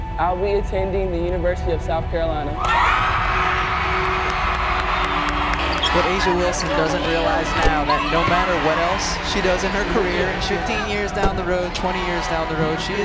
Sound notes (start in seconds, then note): 2.7 crowd cheers